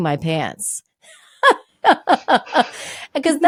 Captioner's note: both laughing